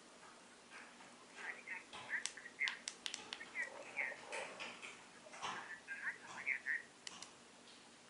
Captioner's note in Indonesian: suara dari earphone QKZ F1 saat call - iOS switch enabled